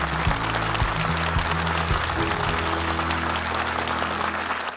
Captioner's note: audience applauds